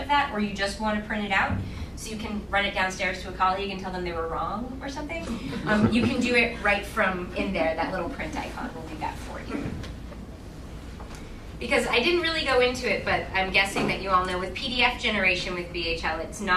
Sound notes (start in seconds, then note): 5.3 laughing